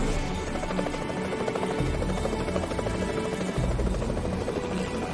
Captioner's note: helicopter whirring